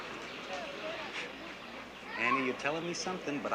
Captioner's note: Vic exhales sharply